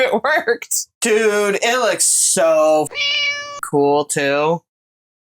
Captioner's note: meow